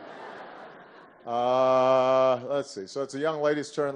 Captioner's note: laughter